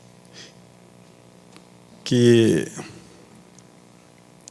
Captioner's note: speaking foreign language